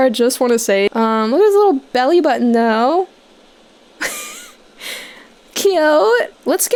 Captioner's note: giggling